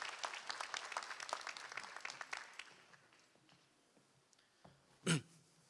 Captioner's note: applause; clears throat